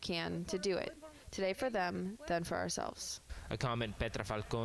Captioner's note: speaking spanish